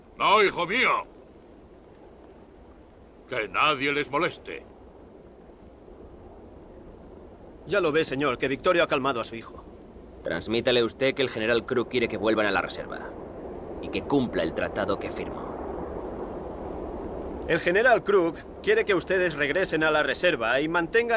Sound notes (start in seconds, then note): 0.2 Victorio speaks Spanish; 17.5 Ramirez speaks Spanish